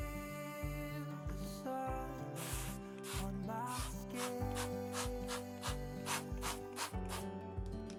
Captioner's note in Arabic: تطلق نفخاتها